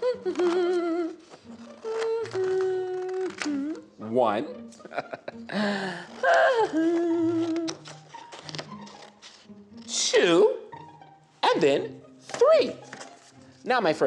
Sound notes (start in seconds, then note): 0.0 humming; 1.7 scissors cutting; 4.8 laughing; 6.1 humming